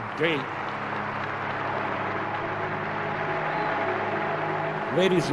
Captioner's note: applause